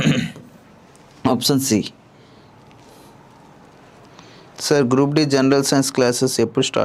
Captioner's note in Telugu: గొంతు సవరించుకోవడం